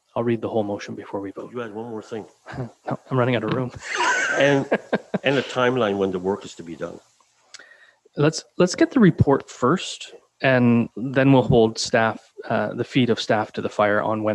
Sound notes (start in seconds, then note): 3.4 laughs